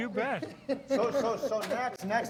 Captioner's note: laughs